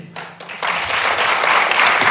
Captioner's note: applause